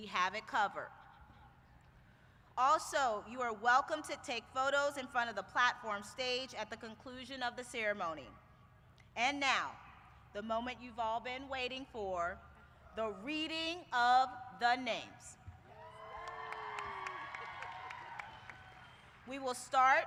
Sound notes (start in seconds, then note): 15.6 cheers